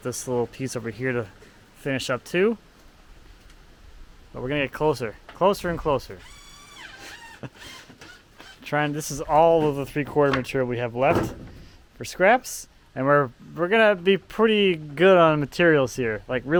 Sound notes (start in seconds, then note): 6.2 drill whirring